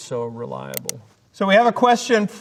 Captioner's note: mouse clicking